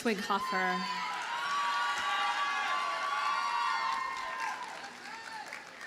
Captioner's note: audience cheers and applauds